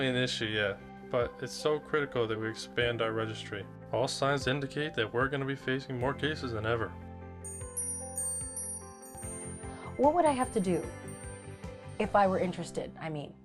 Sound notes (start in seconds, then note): 7.4 bells chiming